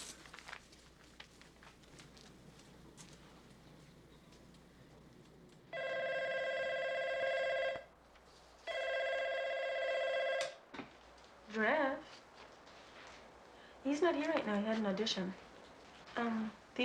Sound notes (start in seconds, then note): 5.7 phone ringing